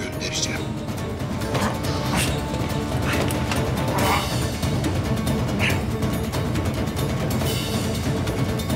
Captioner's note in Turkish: Müzik - Gerilim; Nefes sesi